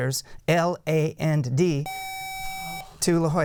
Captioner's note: buzzer